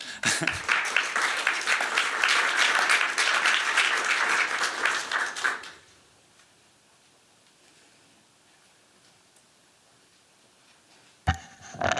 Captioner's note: applause